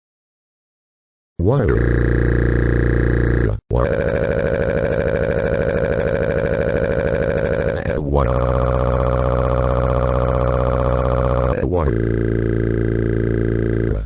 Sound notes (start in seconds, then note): 6.9 crying in agony